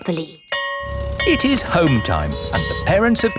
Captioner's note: school bell ringing